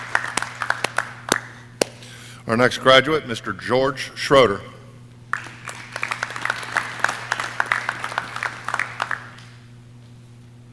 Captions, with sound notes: Our next graduate, Mr. George Schroeder. (audience clapping)